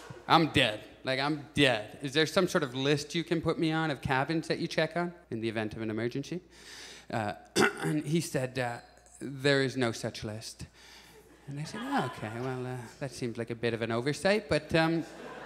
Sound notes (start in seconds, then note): 7.5 clears throat; 15.0 audience chuckles